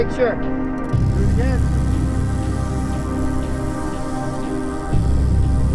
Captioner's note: bike chain whirring